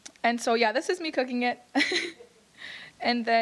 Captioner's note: chuckles